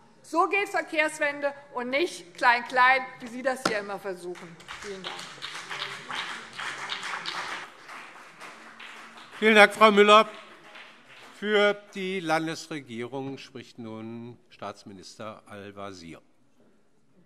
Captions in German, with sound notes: So geht Verkehrswende - und nicht Klein-Klein, wie Sie es hier immer versuchen. - Vielen Dank. [Beifall BÜNDNIS 90/DIE GRÜNEN und CDU] Vielen Dank, Frau Müller. - Für die Landesregierung spricht nun Staatsminister Al-Wazir.